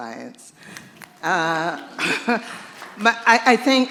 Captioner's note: applause